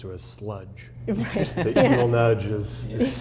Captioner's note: laughing